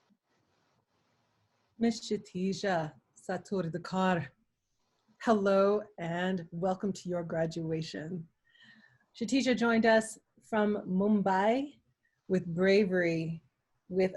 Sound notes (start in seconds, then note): 2.9 speaking in foreign language